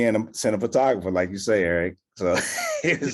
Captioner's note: laughs